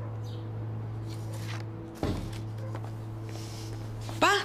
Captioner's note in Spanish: Ruido al abrir la puerta